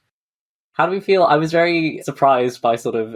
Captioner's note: none